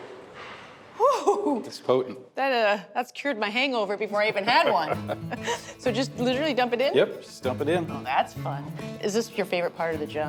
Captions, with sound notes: -Whoo-hoo-hoo! -It's potent. -That, uh -- that's cured my hangover before I even had one. [ Both laugh ] So just literally dump it in? -Yep, just dump it in. -Oh, that's fun. Is this your favorite part of the job?